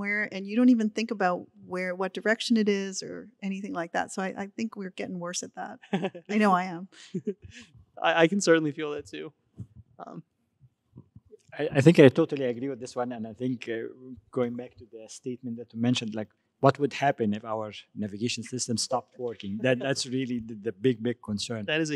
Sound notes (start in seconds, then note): 5.8 laughing